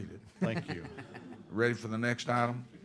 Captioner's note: laughter